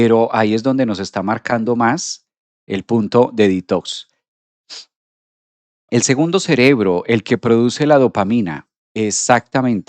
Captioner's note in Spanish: resoplido